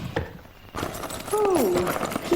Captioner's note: metals clinking